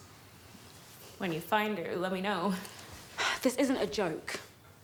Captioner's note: laughs